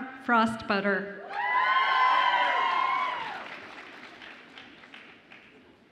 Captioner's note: audience applauds and cheers